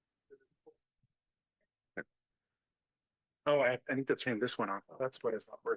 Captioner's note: chatter